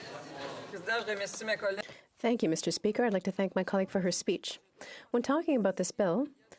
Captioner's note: speaking French